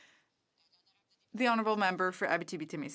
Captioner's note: speaking French